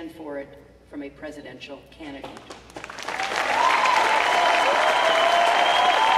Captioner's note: cheering